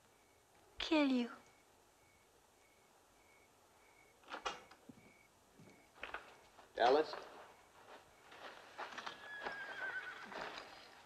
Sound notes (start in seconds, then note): 4.2 door opens; 9.1 horse neighing